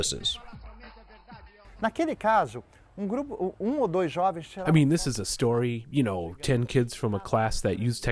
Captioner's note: through translator